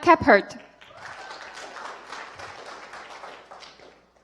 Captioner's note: applause